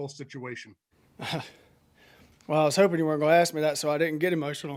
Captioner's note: chuckles